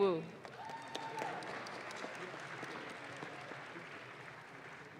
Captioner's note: audience claps